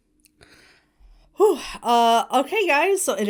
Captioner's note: Hana sighs